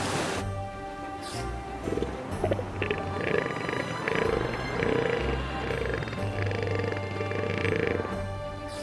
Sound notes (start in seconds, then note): 5.5 grunts